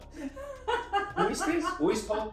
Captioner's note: laughs